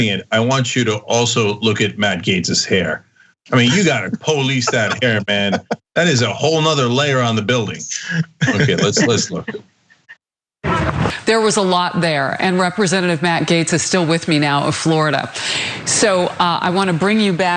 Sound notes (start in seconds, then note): 7.8 laugh